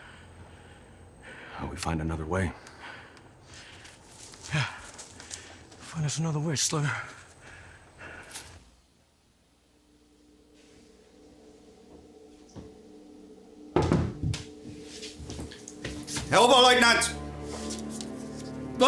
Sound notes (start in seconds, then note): 10.9 ominous music; 13.8 door knocking; 15.8 soldier speaking German